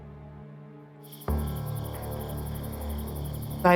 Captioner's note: crickets chirping